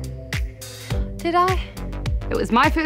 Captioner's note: gasps softly